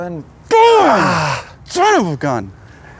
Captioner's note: groans